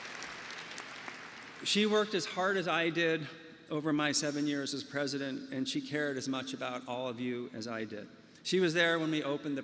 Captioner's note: applause